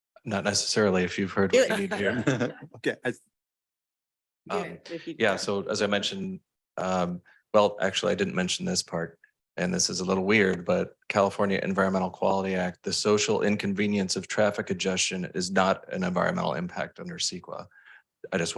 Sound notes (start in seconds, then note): 4.2 chuckles